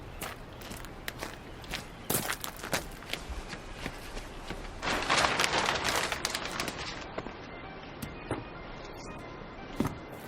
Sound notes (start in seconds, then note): 0.0 outdoor noises, bird singing; 2.0 footsteps; 4.6 nylon rustling; 7.4 radio is on